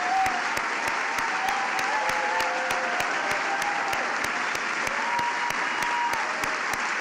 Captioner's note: applause